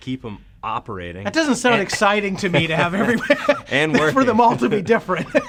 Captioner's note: laughing